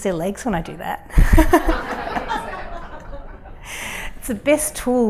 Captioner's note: laughter